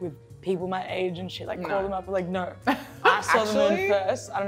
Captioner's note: laughs